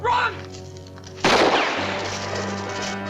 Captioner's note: gunshot